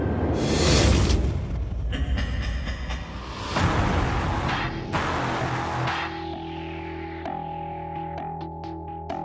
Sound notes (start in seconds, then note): 1.9 faint laughter